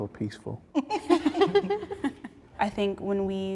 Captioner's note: all laugh